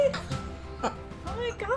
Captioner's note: laughing